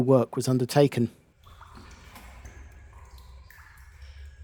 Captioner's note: sound of dripping water into cistern